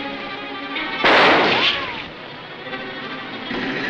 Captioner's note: gun banging